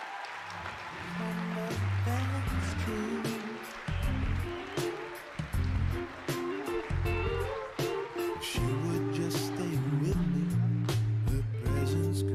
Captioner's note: cheering and Applause